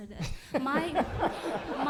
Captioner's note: laughter